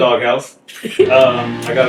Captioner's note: laughing